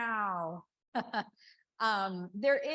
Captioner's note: chuckles